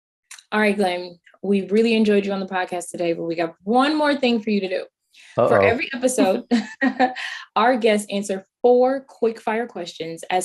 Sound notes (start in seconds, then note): 5.4 chuckling